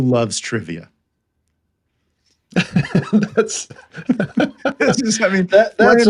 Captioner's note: both laughing